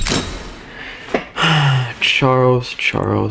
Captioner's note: exhales Oxygen